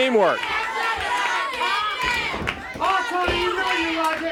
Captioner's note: audience chanting and clapping